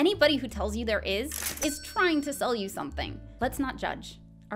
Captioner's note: cash register noise